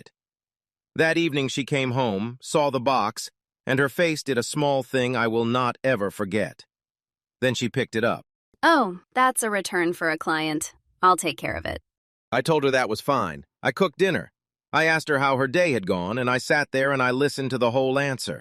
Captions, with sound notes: That evening she came home, saw the box, and her face did a small thing I will not ever forget. Then she picked it up. [flatly] Oh — that's a return for a client. I'll take care of it. I told her that was fine, I cooked dinner, I asked her how her day had gone and I sat there and I listened to the whole answer.